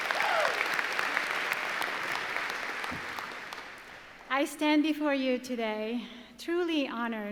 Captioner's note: applause